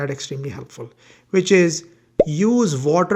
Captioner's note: bubble popping